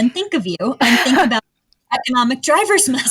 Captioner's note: laughs